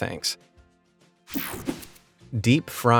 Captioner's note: light, upbeat music; graphics whoosh